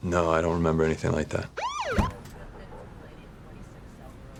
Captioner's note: siren wailing